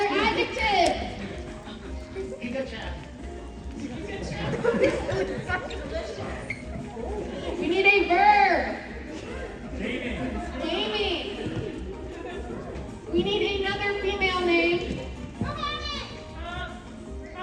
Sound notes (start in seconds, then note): 4.5 collective laughter